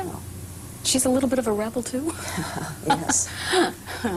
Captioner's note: laughs